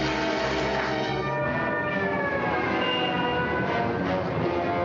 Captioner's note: siren blaring; dramatic music